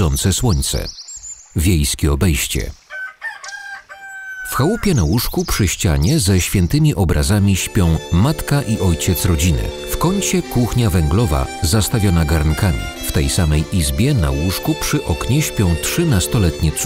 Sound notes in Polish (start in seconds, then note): 2.9 pianie koguta; 7.0 nostalgiczna melodia